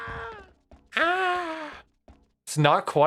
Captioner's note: mocks scream